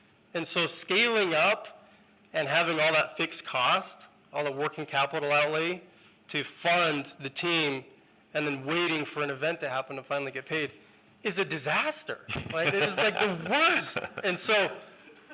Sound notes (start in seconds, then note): 12.3 laughter